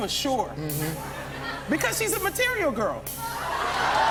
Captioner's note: cheers and applause